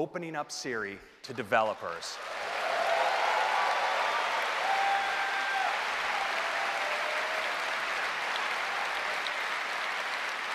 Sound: cheers and applause

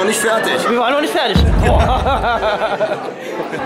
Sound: boom

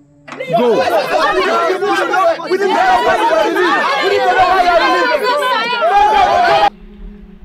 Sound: crowd chatters

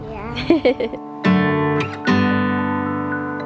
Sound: chuckles

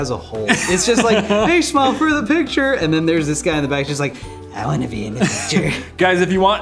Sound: old man's voice

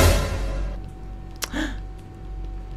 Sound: gasp

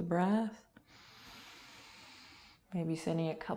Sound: inhaling

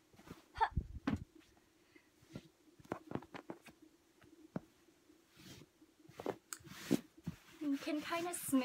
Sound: enthusiastic folding noises

